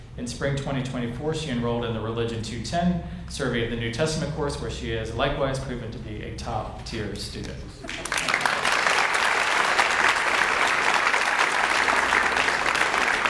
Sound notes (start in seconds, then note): 7.8 audience applauds